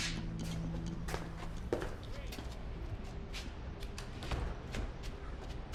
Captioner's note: footsteps pattering